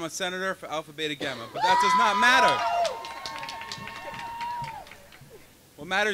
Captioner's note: cheering and clapping